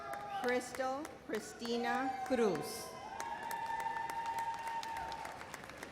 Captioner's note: audience cheers